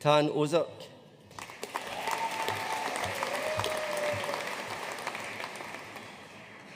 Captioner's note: audience cheering and applauding